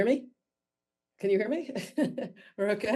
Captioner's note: chuckles